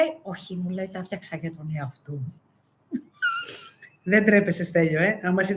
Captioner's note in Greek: γέλια